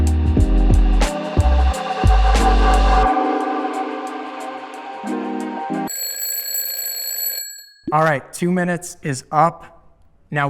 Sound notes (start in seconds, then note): 5.8 bell rings